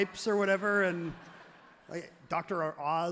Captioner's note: everyone laughs happily